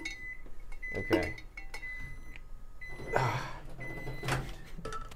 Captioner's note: microwave beeping; microwave opens